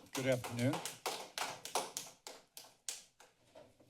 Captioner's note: applause